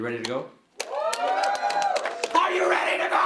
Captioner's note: clapping and cheering